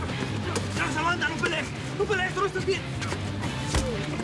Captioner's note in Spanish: Golpes